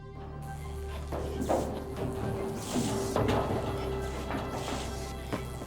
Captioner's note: feet clomping; electricity sizzling; footsteps pattering